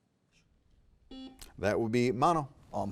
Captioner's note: buzzer beeping